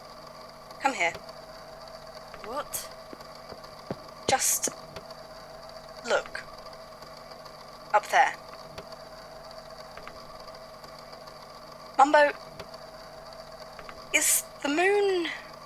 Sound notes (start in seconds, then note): 0.9 footsteps